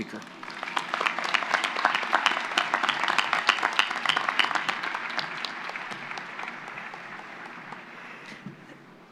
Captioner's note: applause